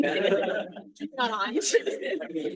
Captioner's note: all laughing